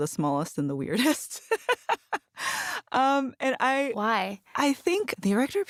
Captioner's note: laughs